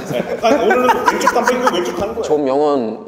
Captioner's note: suddenly laughing